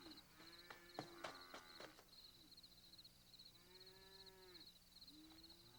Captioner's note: horses approaching